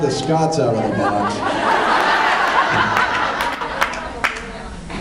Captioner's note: laughs; applauds